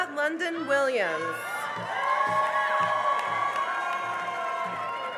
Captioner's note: cheering and applause